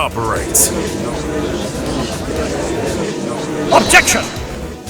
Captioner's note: gallery chattering